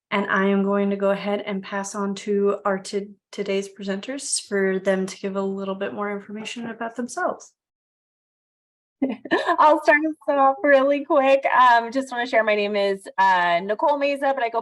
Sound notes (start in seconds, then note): 10.1 laughing